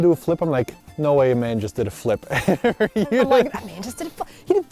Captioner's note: laughs